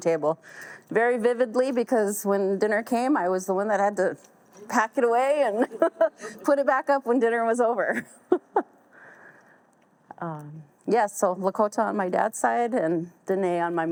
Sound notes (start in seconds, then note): 7.9 chuckles